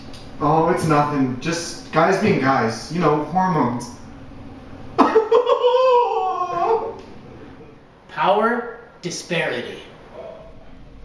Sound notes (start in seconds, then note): 5.0 crying; 5.1 suddenly bursts into tears